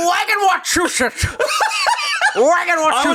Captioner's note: laughing